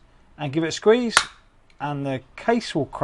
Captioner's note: pop